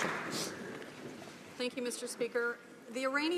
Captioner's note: applause